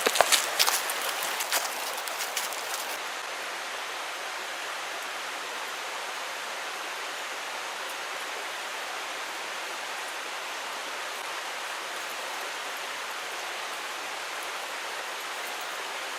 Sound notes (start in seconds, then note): 7.2 rushing water